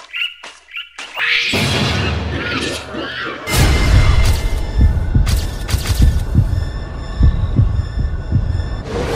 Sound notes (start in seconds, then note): 1.1 monkey shrieking